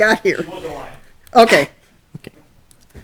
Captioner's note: voice muffled